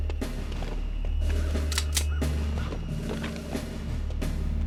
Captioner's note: pistol Cocking